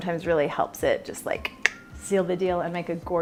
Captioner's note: clicks tongue